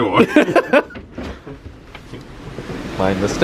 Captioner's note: laughs